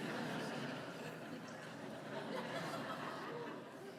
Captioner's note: laughter